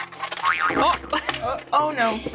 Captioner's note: spring Boing